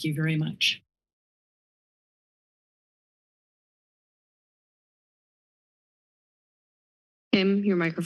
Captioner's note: silence